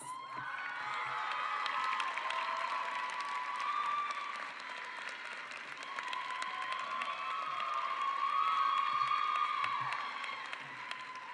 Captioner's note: cheering and applause